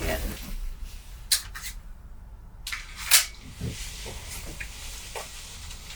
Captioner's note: clicking of gun being loaded